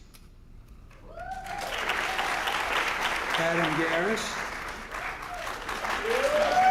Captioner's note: applause